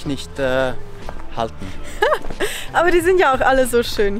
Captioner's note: laughter